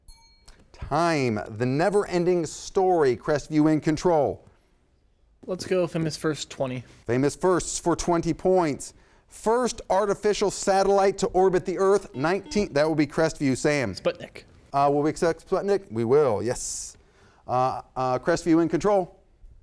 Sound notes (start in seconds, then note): 0.0 bell sounds; 12.1 buzzer sounds